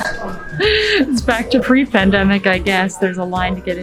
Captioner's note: laugh